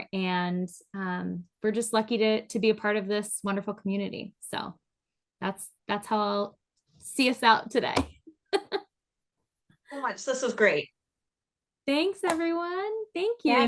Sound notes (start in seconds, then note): 8.4 laughs